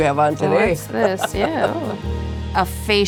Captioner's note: laughing